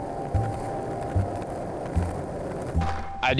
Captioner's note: skate rolling